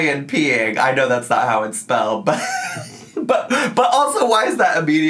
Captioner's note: laughs